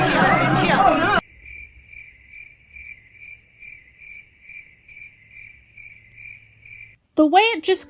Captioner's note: crickets